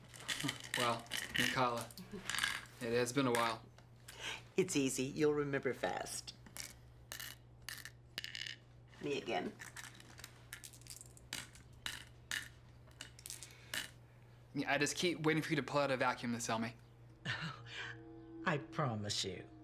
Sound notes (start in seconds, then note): 11.2 beans clattering